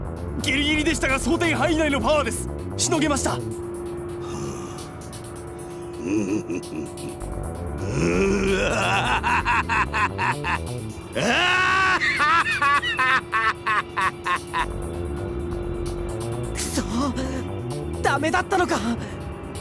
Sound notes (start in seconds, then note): 5.8 chuckle; 6.0 very small chuckle; 7.8 evil laugh; 11.1 triumphant evil laugh